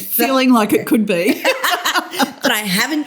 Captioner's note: laughter